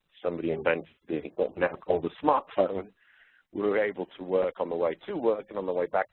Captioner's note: distorted audio